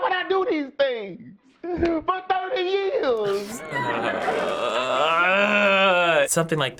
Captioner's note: groaning